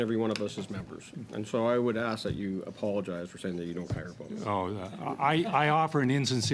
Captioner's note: laughter